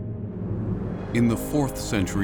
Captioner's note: deep rumble